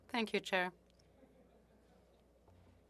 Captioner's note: speaking French